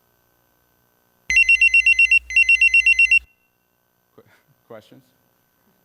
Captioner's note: ringing